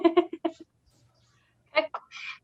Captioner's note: laughs